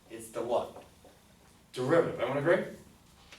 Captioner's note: none